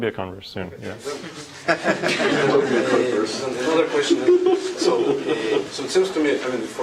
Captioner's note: laugh